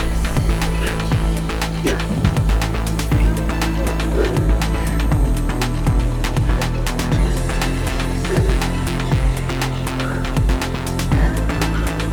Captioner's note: breathing